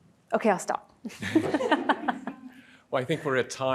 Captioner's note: laughing